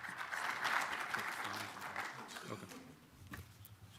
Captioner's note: audience applauding; whispering